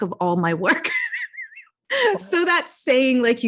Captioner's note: laughs